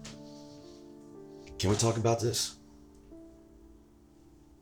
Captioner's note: door closes